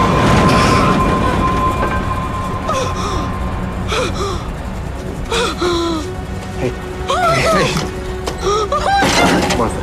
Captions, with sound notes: [hyperventilating] - Hey. Hey. - Oh, my God! - Oh, my God. - Martha.